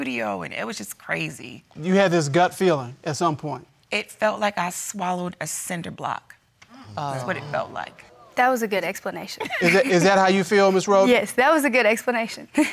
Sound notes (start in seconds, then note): 6.8 laughs